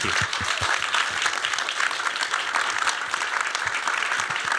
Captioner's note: applause